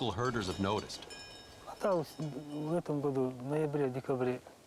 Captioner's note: speaks Russian